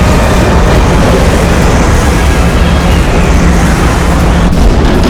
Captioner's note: thunder